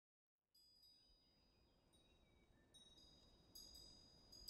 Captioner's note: wind chimes ringing